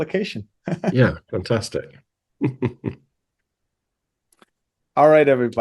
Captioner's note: laughs